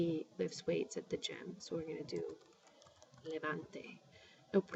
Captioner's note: spanish